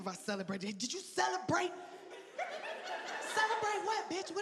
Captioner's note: audience laughing